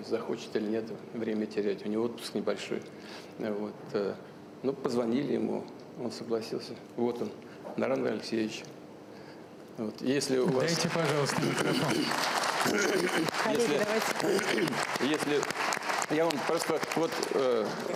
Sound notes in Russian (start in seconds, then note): 9.2 Аплодисменты